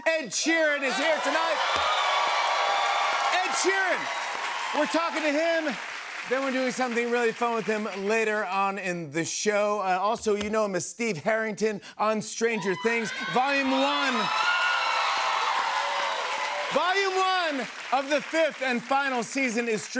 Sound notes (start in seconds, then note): 14.8 cheers and applause